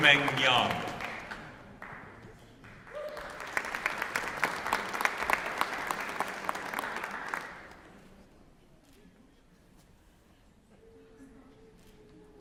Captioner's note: applause